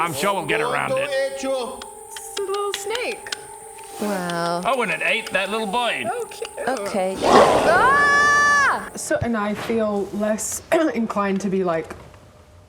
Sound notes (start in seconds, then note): 7.1 rawr!